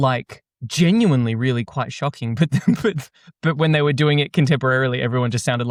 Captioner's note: chuckles